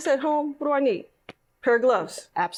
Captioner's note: taps